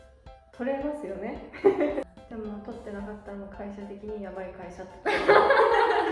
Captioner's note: laughs